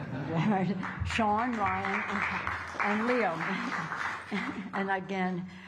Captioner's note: applause